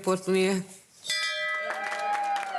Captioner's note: speaking in a foreign language; bell clanging; hospital staff cheering and clapping